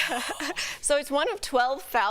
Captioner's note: laughter